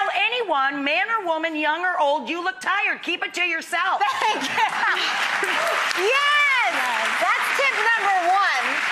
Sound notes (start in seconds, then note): 4.1 laughing; 4.2 applause